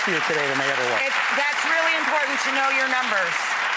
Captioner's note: audience applauds